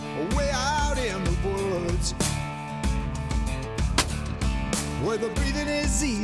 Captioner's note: gunshot